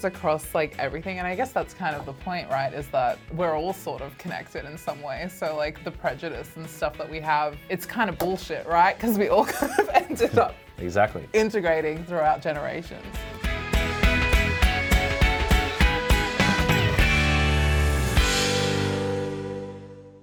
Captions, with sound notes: across like everything and I guess that's kind of the point, right? Is that, we're all sort of connected in some ways. So like, the prejudice and stuff that we have, it's kind of bullshit, right? 'Cause we all kind of ending up... (laughs) - Exactly. - Integrating throughout generations. (upbeat music)